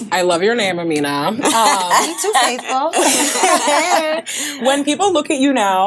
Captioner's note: all laughing